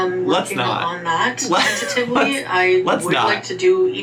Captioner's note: laughs